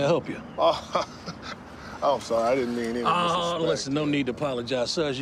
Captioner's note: laughs